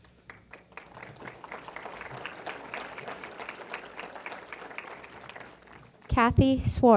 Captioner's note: applause